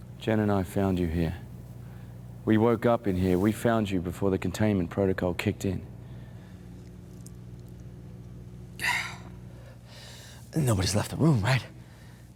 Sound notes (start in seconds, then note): 8.8 Malcolm exhales deeply